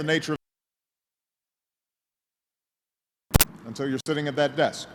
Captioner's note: sound cuts out